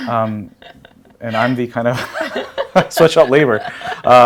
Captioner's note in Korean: 웃음